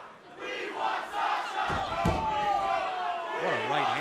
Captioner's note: fans chanting